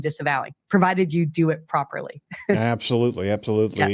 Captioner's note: laughing